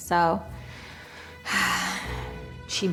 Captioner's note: sigh